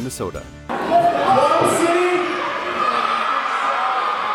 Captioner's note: audience cheering